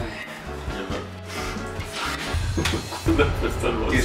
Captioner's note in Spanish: suspira